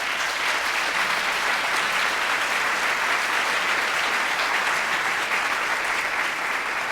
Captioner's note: applause